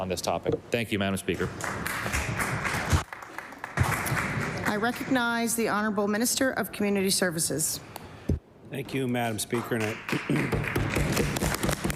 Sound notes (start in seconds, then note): 5.9 applause